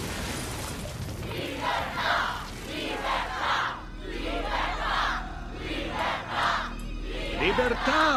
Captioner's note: chanting